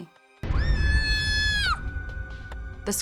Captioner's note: screaming